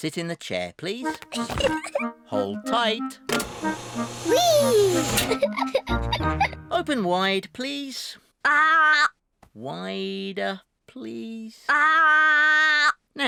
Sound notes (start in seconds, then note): 1.4 giggles; 5.4 giggles